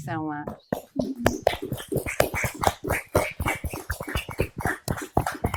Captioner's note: and audience applauding